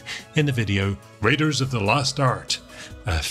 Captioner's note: American accent